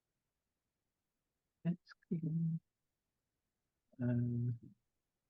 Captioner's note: muttering softly